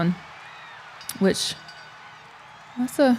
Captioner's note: crowd cheering; bell ringing